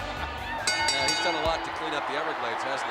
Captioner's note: laughs; bell ringing